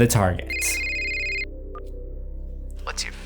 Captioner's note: cell phone rings